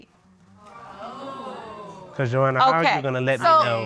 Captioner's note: audience exclaims